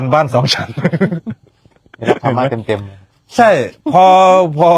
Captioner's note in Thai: เสียงหัวเราะ